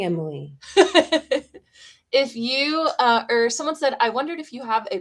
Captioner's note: laughter